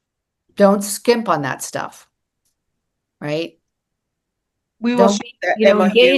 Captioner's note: laughs